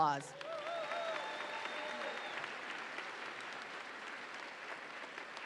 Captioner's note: audience applauds and cheers